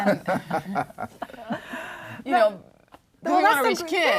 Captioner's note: joint laughter